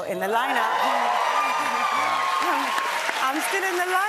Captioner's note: cheers and applause